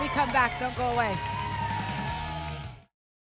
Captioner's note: applause and cheering